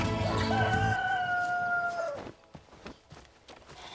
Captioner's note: cock crowing